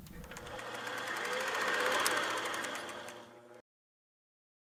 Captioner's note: film sounds rolling